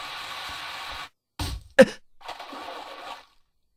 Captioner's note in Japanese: ぬかるみに倒れる音：ベチャッ･･･！; 何かに殴られる音：ゴスッ